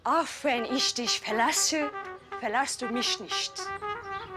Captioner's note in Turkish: Almanca konuşma